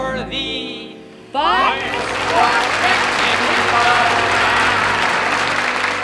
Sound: audience applauding

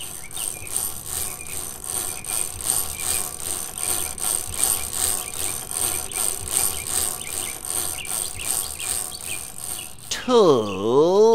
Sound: chain cranking

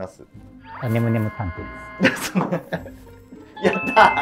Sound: laughing

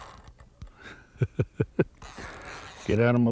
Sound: laughter

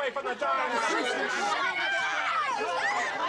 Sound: all shouting

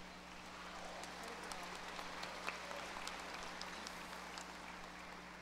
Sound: audience applause

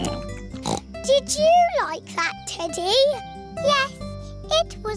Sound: snorts

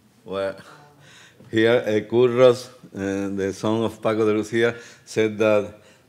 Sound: speaking Spanish

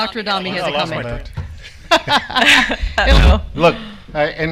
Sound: laughs

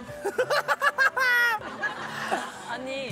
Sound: laughing hysterically

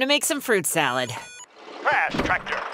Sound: beeping

